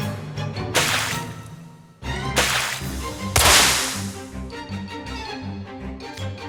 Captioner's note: 𝘚𝘱𝘭𝘢𝘴𝘩! 𝘚𝘱𝘭𝘢𝘴𝘩! ...𝘗𝘭𝘰𝘱